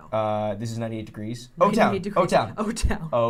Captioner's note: laughs